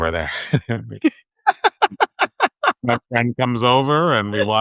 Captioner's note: all laughing